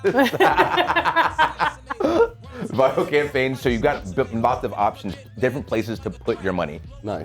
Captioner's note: laugh